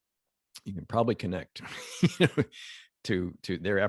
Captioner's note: laughs